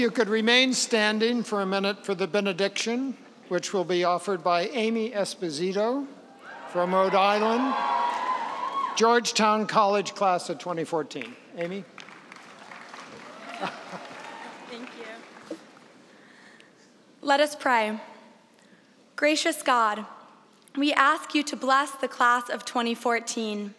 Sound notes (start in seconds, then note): 8.3 cheering; 13.5 applause